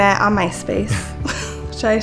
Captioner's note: laughing